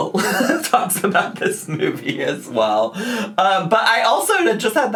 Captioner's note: laughs